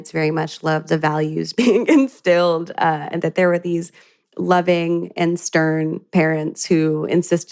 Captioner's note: chuckles